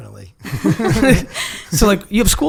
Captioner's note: laughing